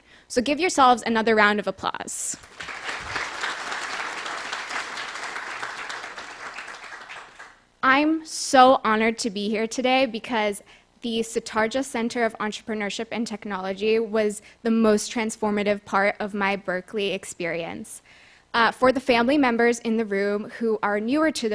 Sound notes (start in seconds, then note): 2.3 applause